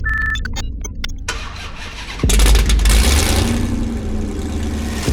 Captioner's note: engine revs